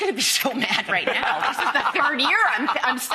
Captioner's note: all laughing